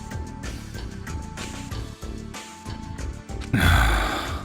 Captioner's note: sigh